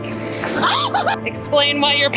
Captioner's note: screaming